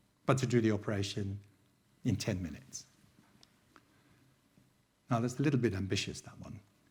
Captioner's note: none